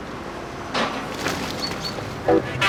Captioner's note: rattling